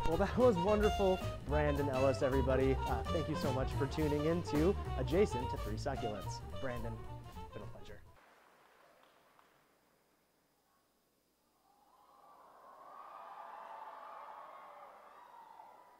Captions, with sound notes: Well, that was wonderful. Brandon Ellis, everybody. Thank you so much for tuning into Adjacent to Three Succulents. Brandon, been a pleasure. [CHEERING]